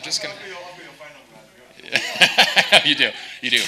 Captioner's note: speaks faintly; laughing